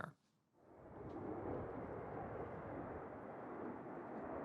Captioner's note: jet engine roaring